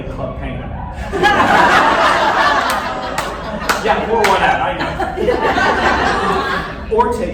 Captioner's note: laughter, sobs